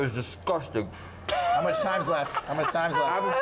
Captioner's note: laughs